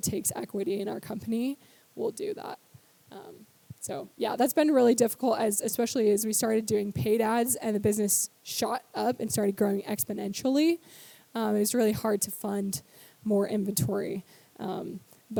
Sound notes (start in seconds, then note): none